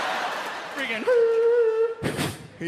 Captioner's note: imitates microphone feedback